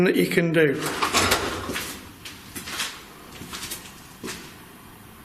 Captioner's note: strange rattling sound